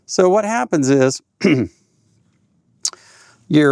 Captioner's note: clears throat